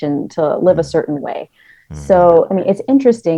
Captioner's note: hums